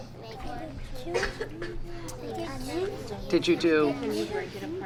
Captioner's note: children chattering